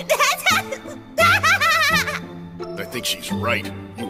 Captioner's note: laughing